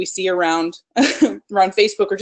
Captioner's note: laughs